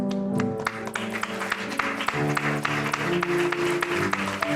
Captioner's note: applause